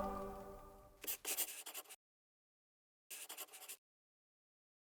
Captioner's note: pencil scribbling